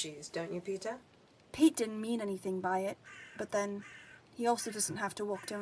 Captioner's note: crows cawing